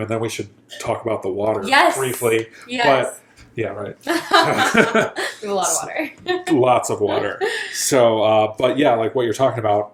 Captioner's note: laughing